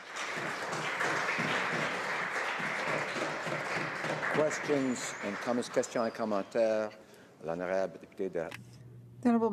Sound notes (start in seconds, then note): 1.0 speaking Alternate Language; 1.9 some Applause